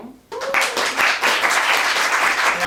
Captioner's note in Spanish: Aplauso